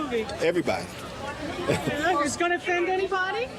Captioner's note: laughing